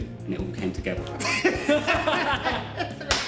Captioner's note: laughing